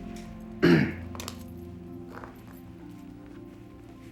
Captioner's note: clears throat